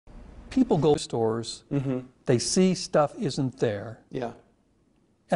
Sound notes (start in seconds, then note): 1.6 mmm- hmm